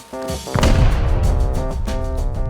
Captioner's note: boom